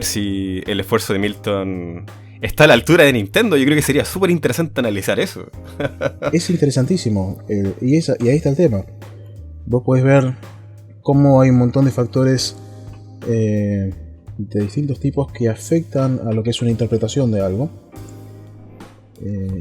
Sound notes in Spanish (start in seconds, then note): 5.6 risas